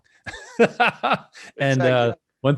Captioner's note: laughing